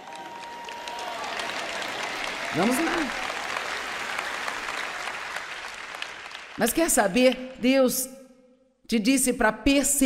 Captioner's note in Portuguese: audiência aplaude